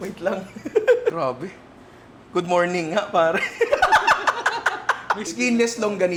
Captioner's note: laughter